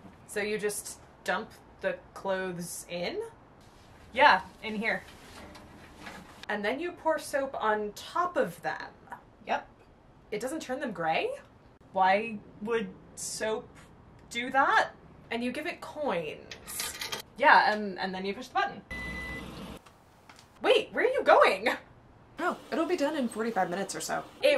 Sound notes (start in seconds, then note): 16.7 coins clink; 18.9 machine beeps